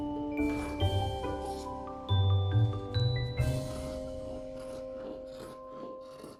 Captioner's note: more snip, music ends